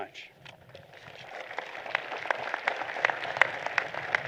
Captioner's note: applause